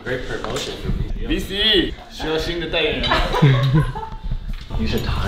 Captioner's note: Laughs